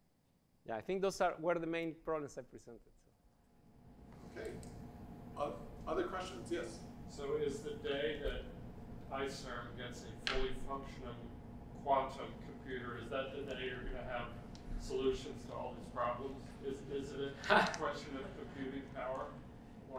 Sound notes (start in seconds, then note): 17.3 chuckles